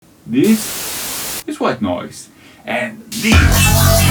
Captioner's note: white noise